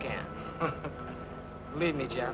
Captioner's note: Jeff laughs